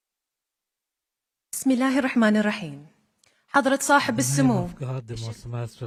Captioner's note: foreign language